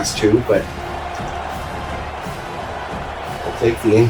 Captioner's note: crowd Noises